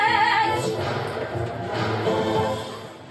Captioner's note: doors slamming